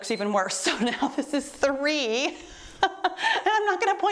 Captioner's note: timer beeps